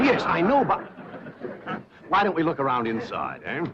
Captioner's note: laughs